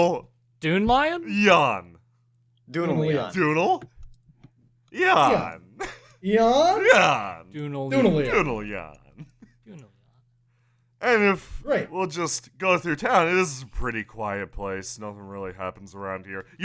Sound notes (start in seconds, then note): 9.3 quietly